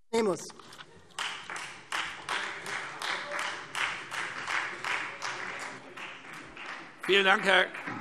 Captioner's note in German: Beifall Freie Demokraten - Zuruf